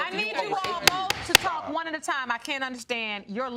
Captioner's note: bangs gavel